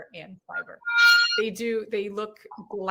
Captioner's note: pan scraping